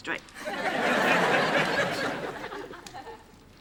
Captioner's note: laughter